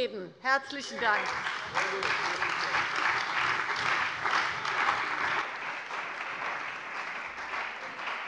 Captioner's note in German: Lebhafter Beifall bei der CDU und dem BÜNDNIS 90/DIE GRÜNEN